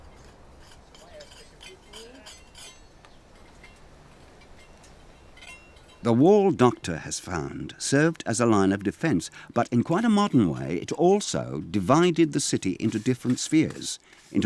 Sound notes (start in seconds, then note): 1.6 tools scraping